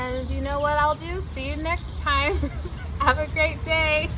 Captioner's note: laughs